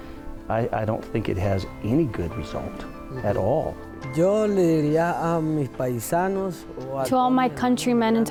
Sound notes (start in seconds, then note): 4.1 speaking foreign language